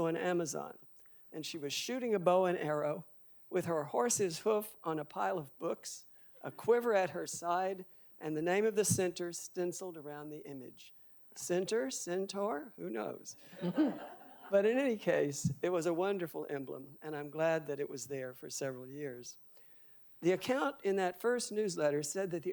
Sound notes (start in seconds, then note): 13.5 audience laughing